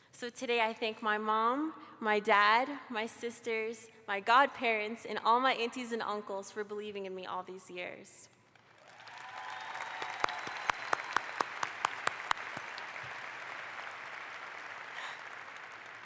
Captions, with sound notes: So today I thank my mom, my dad, my sisters, my godparents, and all my aunties and uncles for believing in me all these years. (audience applauds)